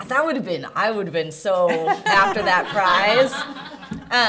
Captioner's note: laughter